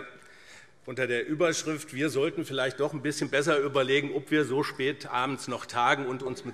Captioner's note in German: none